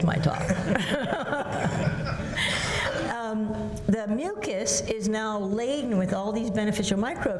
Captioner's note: laughs